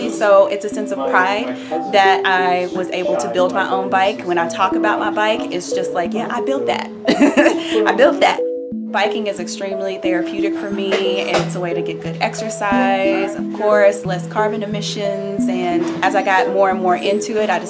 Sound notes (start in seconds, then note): 7.0 laughs